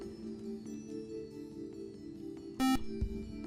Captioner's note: buzzer